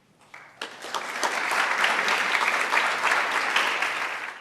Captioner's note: applause